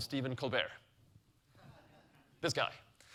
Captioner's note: audience laughing